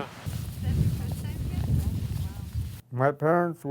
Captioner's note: people chatting in wind